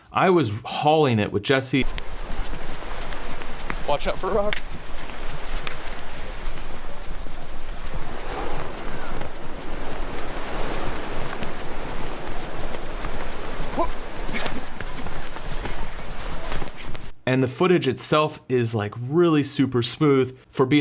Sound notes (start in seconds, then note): 5.2 waves crashing; 13.6 laughs; 15.1 waves crashing